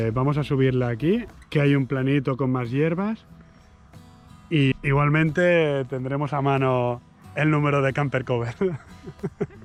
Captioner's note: laughter